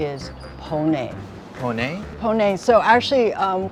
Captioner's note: foreign language